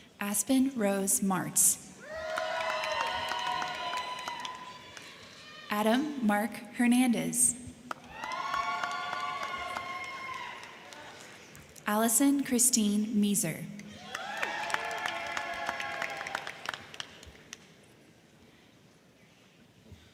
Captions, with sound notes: Aspyn Rose Marts. (crowd cheering) (crowd clapping) Adam Mark Hernandez. (crowd cheering) (crowd clapping) Allison Christine Measer. (crowd cheering) (crowd clapping)